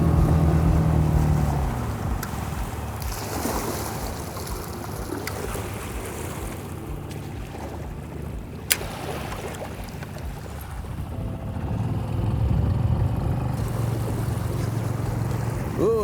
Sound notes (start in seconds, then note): 0.1 engine chugging; 3.4 water sloshing; 5.6 somber piano music; 5.6 water sloshing; 11.8 engine chugging; 11.8 somber piano music